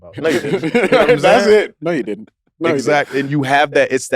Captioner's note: laugh